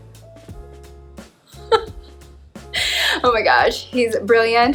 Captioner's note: laughs